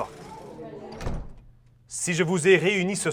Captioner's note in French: Porte de bois qui se ferme